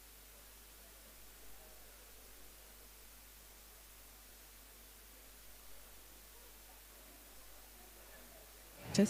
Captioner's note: background chatter